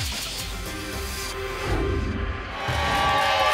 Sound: whoosh; applause and cheering

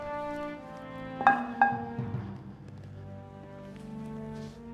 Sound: bat thuds; bat clattering

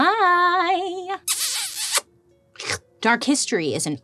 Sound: lips smooching

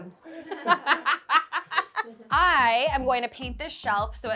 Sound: host laughing

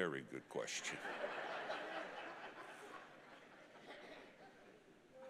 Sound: congregation laughing

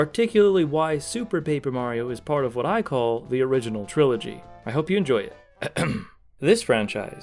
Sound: ahem

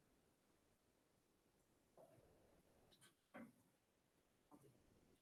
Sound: faintly speaking

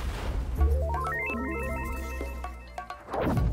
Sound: electronics beeping; rhythmic music

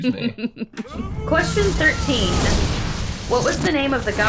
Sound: explosion noise

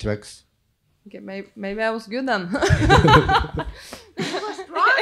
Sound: laughs

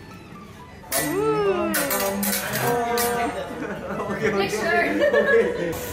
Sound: people exclaiming

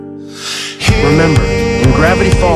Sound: reading from Journal

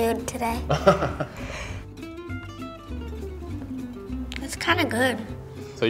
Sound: interviewer laughs

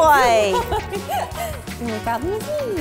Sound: laughing

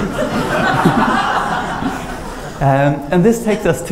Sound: laughter

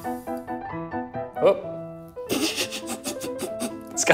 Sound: laughs

